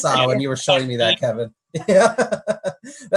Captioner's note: laughs